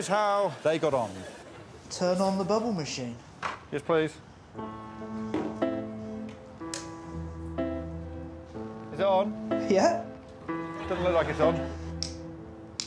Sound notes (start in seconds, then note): 6.7 switch clicks